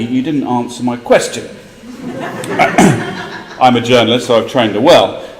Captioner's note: laugh